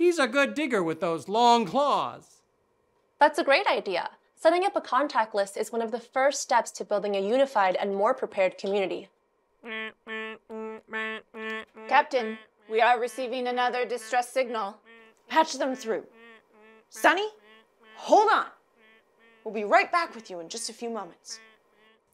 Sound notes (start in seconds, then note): 9.7 alarm beeping